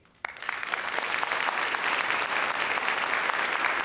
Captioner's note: applause